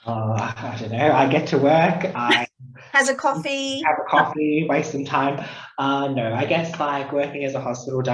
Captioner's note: laughs